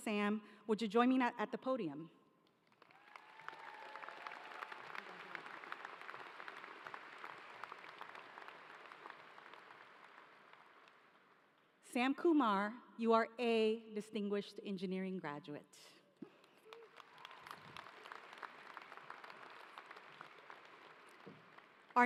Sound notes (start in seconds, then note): 6.4 applause; 20.6 applause